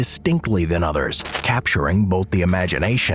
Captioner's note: video crackling